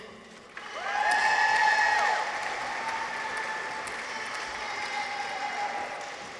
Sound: audience applauds; people cheer

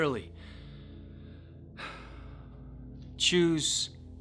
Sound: sigh

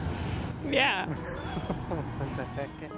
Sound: laughs

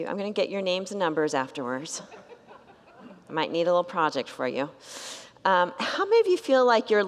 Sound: congregants laugh

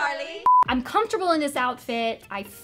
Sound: beeping

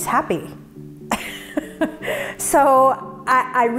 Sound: laughs

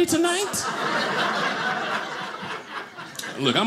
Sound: audience laughing

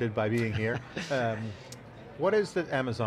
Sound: laughing

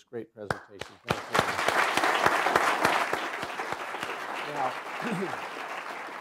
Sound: applause

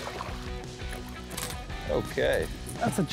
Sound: water splashing

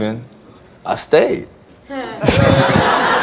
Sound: laughs; audience laughs

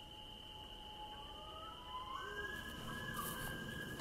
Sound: loon calling

